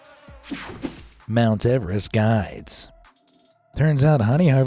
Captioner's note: screen whooshing